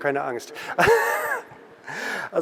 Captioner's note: laughter